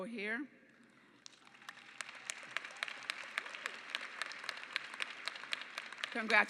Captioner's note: clapping